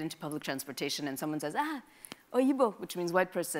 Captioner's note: speaks in a foreign language